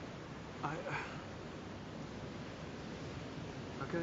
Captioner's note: sighs